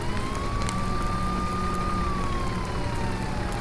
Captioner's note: gentle music; fire raging